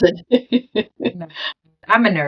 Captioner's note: laughing